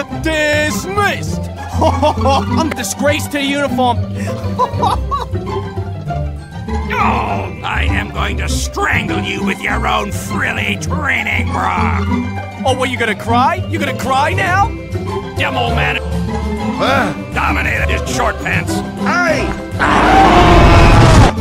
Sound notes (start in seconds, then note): 1.7 stupid scunt laughter; 4.2 More scunt laughter